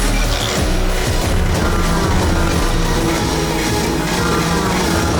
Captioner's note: tool whirring; engines revving